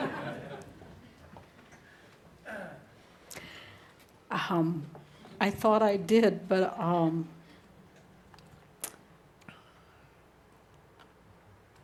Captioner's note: sighs